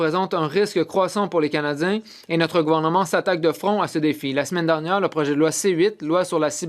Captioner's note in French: voix de l'interprète